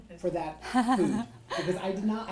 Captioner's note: laughs